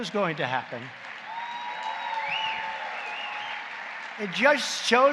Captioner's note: applause